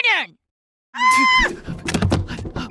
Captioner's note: scream; thunk